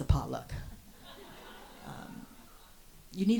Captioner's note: audience laughs